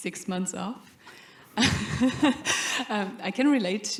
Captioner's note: laughter